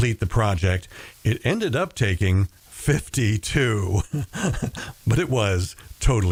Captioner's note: laughs